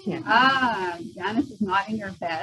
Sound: background humming and ah-ing

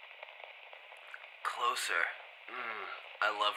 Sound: over radio

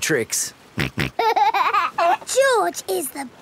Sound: snorts and laughs

